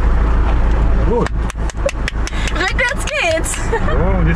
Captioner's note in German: applaudiert